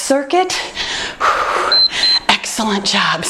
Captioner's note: exhales; timer beeps